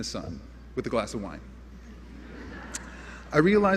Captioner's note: laughter